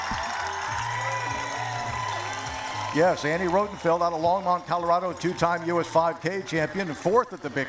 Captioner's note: cheering